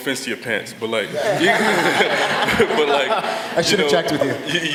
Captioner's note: laughter